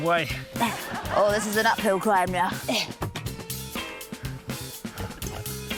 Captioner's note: grunts